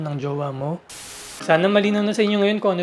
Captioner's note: static sound